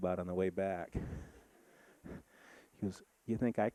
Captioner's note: audience laughing